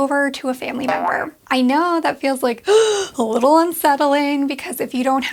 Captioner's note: gasps